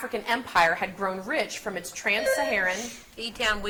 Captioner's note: buzzer beeps